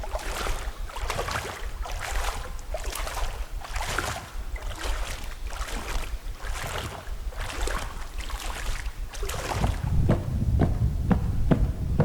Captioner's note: water sounds